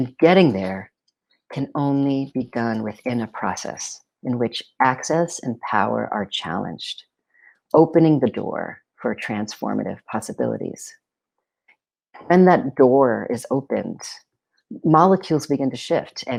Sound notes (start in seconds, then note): none